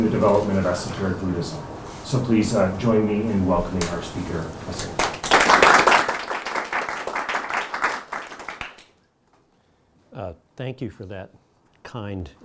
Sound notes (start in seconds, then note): 8.4 audience applauds